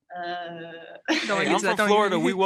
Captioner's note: chuckles